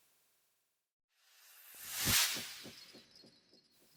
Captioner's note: sound effect